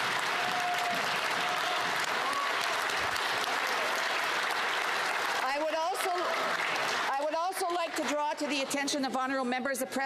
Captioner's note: applause